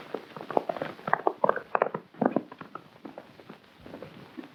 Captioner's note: hooves clomping